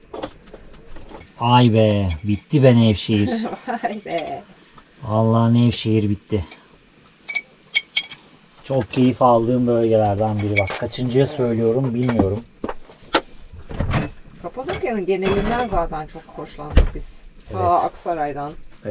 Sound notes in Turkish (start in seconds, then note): 3.3 kahkaha